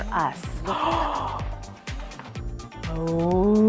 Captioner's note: gasps